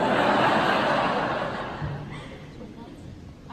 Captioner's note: laughter